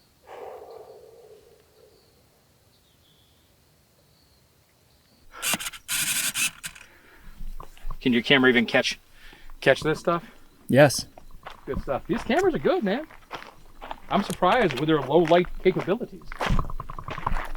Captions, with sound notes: (camera buzzing) - Can your camera even catch this stuff? - Yes. - Good stuff. These cameras are good, man. I'm surprised with their low light capabilities.